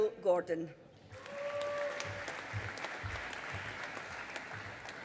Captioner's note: audience applauding